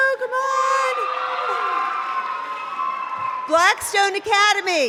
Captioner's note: cheering